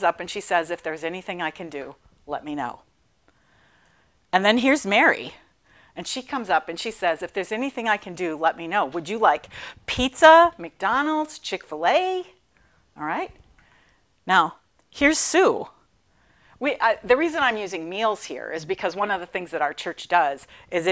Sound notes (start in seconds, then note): none